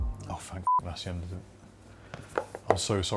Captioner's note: beep